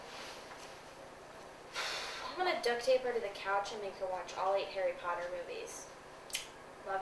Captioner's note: sighs; blows kiss